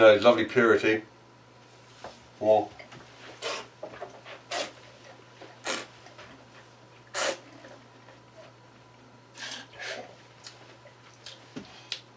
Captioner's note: slurping